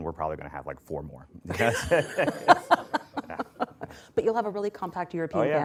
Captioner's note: laughter; laughs